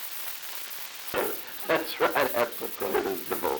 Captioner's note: Truman, laughing